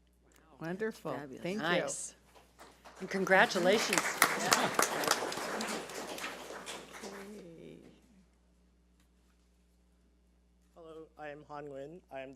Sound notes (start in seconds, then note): 4.3 audience applauds